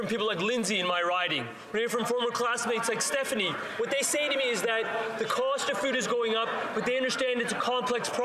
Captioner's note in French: voix de l'interprète